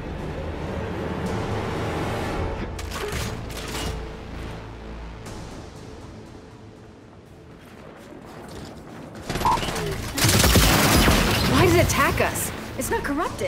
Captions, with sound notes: (suspenseful music) (gunfire) - Why does it attack us? It's not corrupted.